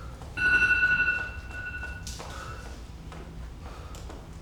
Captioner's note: timer rings; Six breathes heavily